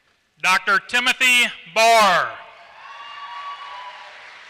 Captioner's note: applause